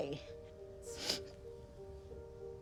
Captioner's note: sniffling